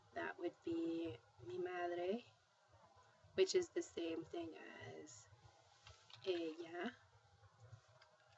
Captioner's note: spanish